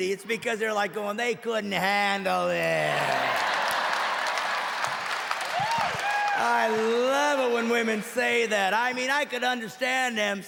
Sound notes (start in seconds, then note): 7.8 audience cheering